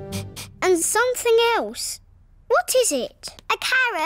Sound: sniffs

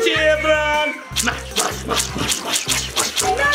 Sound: masher squishing

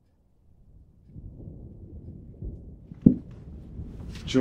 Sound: rain drizzle

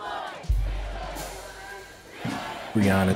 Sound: chanting interspersed

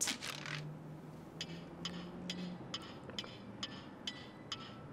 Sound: clock ticking

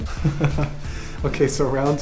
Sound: laughs

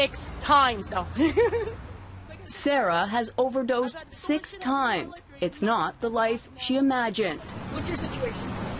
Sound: laughs

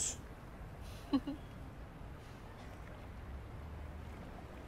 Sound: chuckles

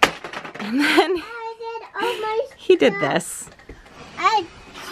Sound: laughs

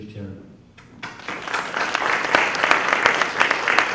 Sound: applause

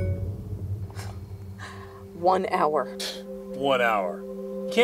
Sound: notification sounds; scoffs

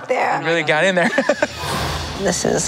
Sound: laughing; laughs

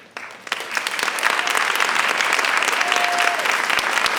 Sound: audience applauds

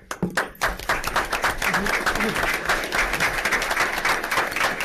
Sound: audience applauds

